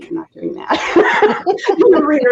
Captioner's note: laughing